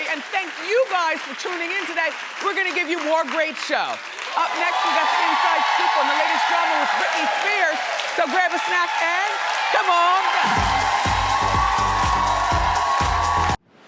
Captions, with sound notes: and thank you guys for tuning in today. We're gonna give you more great show. (crowd cheers) Up next we've got the inside scoop on the latest trouble with Britney Spears, so grab a snack and come on back! (upbeat music)